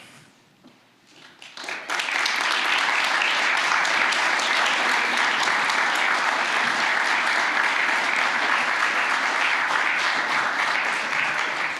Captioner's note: applause